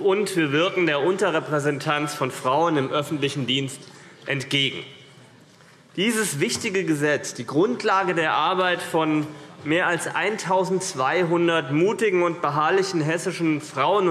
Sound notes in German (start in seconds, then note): none